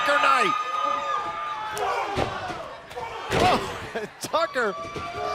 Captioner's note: crowd chatter